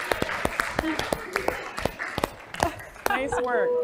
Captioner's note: applause; laugh